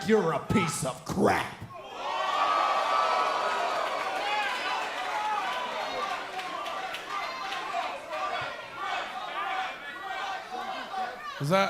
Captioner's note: cheers & applause